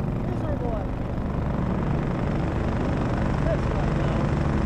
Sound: engine revving

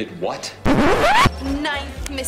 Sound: record scratch

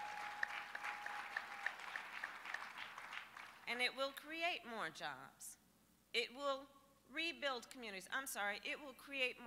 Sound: applause

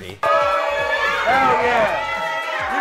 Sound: crowd cheering

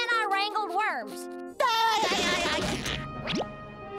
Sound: laughing

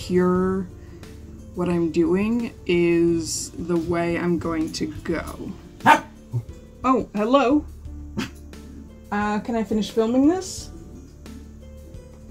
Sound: bark

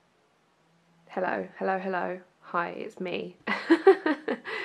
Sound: laughs

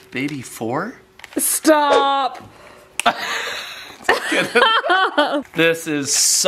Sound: laugh

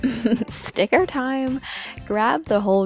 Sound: giggle

